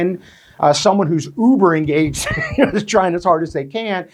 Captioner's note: chuckles